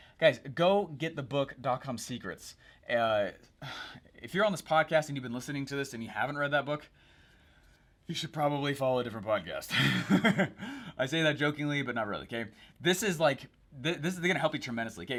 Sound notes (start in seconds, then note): 9.8 chuckles